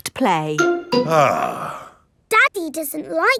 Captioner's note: sighs